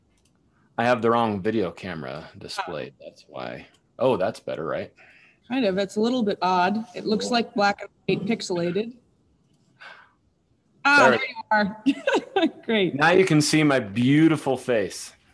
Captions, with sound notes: I have the wrong video camera displayed. That's why. That's better, right? >> Kind of. But it's a little bit odd. It looks like black and pixelated. There you are. [LAUGHTER] Great. >> Now, you can see my beautiful face.